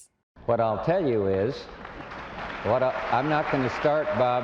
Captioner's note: audience applauding